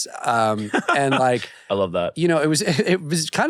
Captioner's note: laughs